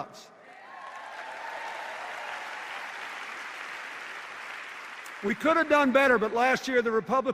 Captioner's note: cheers and applause